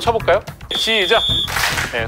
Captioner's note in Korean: 박수쳐